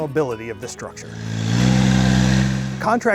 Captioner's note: engine revving